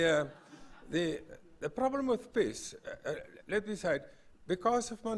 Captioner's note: laugh